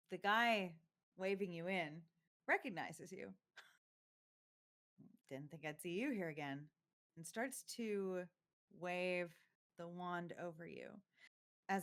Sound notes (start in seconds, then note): none